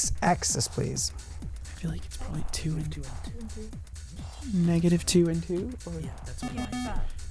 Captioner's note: wispering